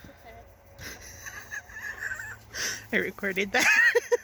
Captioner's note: laughter